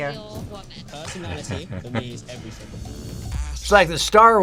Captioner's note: laughs